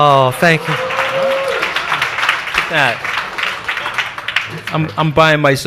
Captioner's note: audience applauds